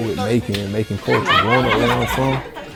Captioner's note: girls laughing